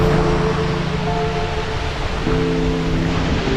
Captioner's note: loud stream noise and background music